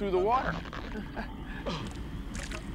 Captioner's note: chuckles